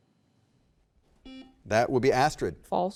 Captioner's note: button beeping